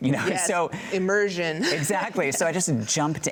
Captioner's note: laughs